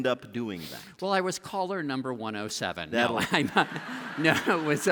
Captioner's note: laughter